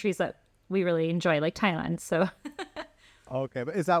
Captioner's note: laughter